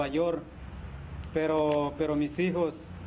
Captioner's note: speaking spanish